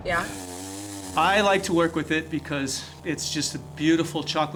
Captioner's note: sawing